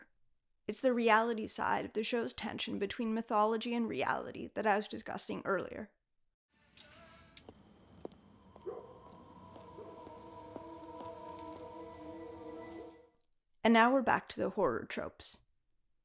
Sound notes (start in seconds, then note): 7.3 Buffy's footsteps on the sidewalk; 9.3 ominous music